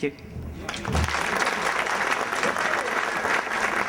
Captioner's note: applause